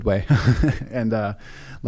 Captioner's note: laughs